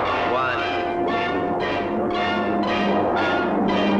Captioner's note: rocket rumbling; intense orchestral music